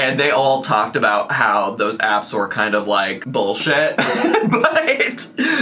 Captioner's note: laughs